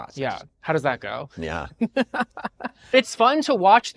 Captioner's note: laughing